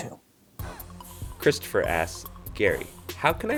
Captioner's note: voiceover